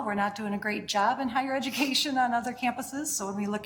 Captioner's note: chuckling